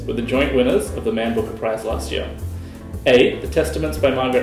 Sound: none

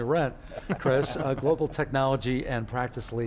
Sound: laugh

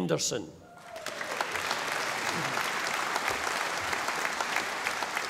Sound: audience applauding

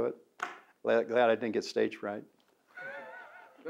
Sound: both laughs

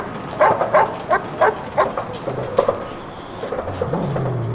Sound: dog growling

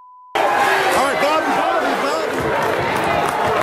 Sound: shouting

